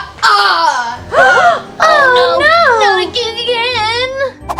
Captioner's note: echoing laugh; collective gasping